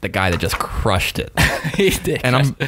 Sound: laughing

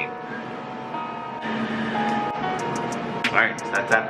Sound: machine whirs; lo-fi hip-hop music

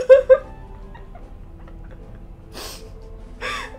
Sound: crying and sniffling

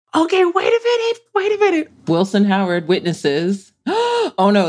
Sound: gasps

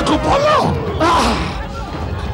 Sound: grunts

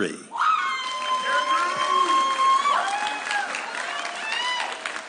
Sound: audience cheering

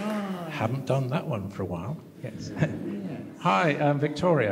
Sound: laughter

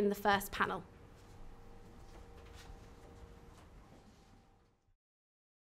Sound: silence

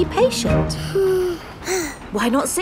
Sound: both sigh

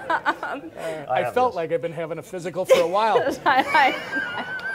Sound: laughs

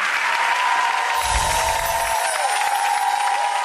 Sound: cheering

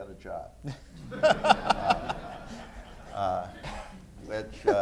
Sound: laughter

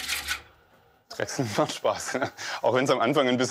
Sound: laughs

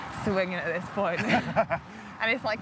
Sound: laughter

